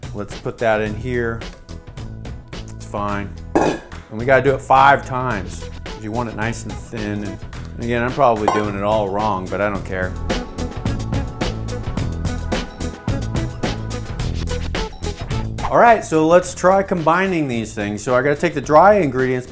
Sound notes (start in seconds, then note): 3.5 metal bowl clanking; 8.1 metal bowl clanking; 10.2 upbeat music; 15.4 whoosh